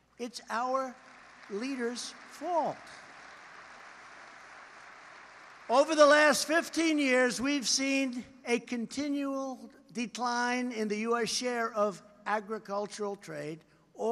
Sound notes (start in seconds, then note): 3.3 applause